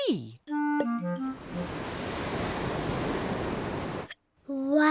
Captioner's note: waves crash and swoosh